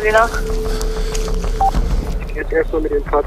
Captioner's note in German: Piepsen, Funkdurchsage; Piepsen